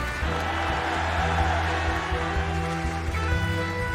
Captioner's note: bersorak masyarakat